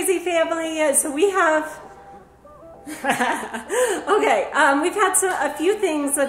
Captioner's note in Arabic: يضحك